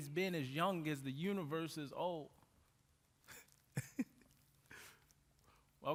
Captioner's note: laughs